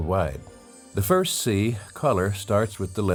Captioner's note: bells chiming